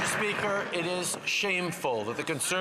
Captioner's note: some Applause